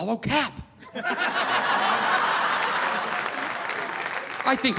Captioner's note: audience laughing